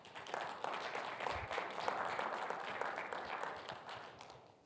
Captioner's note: audience applauding